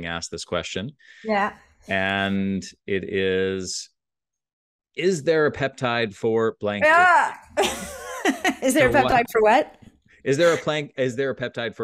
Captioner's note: chuckles